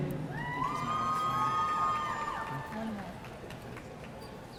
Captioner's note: audience cheering